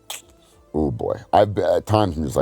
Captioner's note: clicks tongue